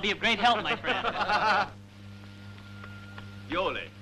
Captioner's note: laughing